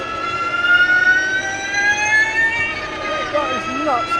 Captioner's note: engine revving